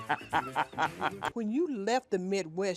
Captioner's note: laughs